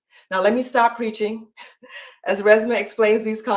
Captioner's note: chuckles